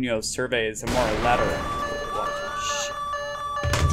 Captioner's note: explosion, screams and alarm